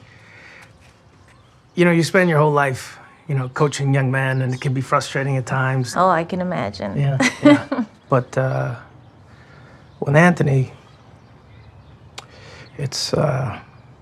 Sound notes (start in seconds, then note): 7.0 laughs